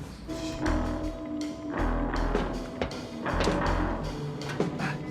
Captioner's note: dramatic music; metal clanging